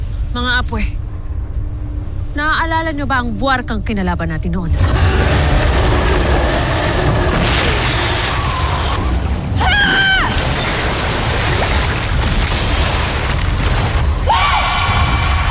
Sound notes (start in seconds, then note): 4.6 fire blasting; 4.6 screeching roar; 4.8 powerful splash-crackle; 5.9 screams; 5.9 wind flare whoosh; 10.9 powerful blast-crackle; 10.9 screams; 14.2 growls; 14.2 powerful blast-crackle